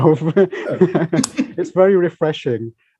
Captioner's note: laughter